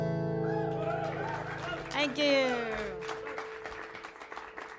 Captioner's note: audience applauds